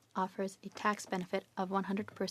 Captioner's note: speaking French